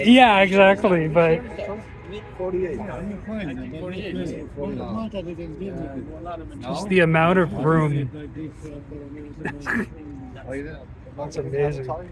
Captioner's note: laugh